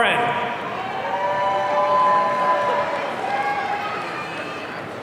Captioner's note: audience cheering